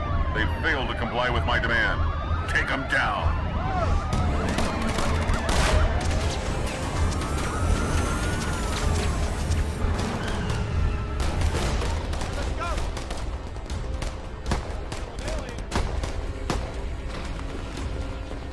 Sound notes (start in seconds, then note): 4.6 dramatic music; 4.6 guns firing; 10.4 tires screech; 14.9 dramatic music